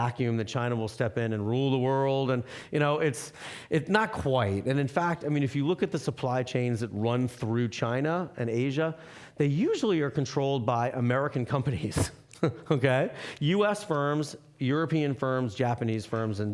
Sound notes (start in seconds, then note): 12.0 laughing